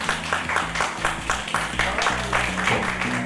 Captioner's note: applause